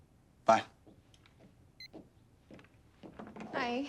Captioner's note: footstep